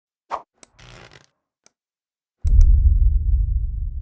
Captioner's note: whoosh